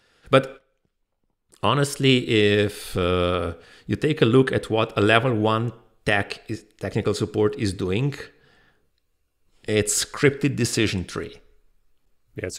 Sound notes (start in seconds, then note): none